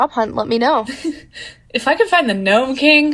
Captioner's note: chuckles